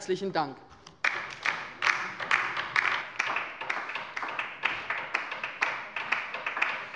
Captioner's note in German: Beifall bei der LINKEN